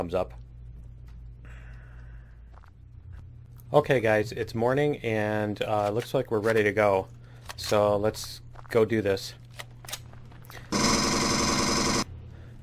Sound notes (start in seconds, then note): 6.7 weapons click